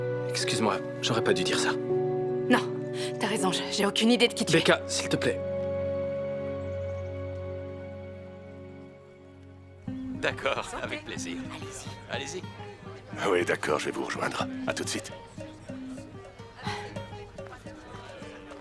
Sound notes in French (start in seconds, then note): 6.5 bruits de pas qui s'éloignent; 13.2 bavardage indistinct